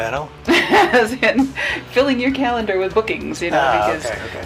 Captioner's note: laughs